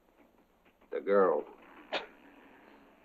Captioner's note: chuckles